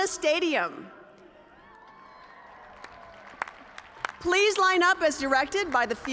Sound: cheers and applause

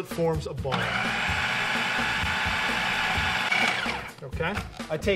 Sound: food processor running

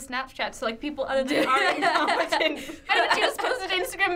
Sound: laughs

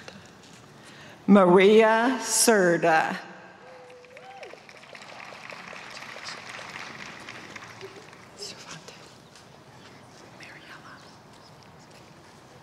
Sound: applause

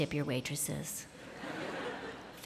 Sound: laughter

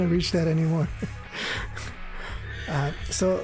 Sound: laughs

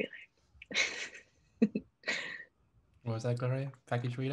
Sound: laughing

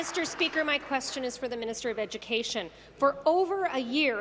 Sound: applause

